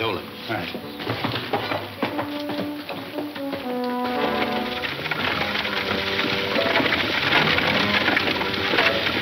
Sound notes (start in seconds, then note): 0.0 hooves heavily clunking; 3.6 wagon clanking